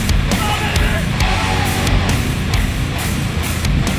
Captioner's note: energetic rock music; yelling